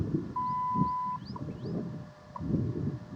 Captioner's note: 1:27 PM CDT beep